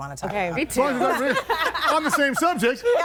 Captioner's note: everybody laughing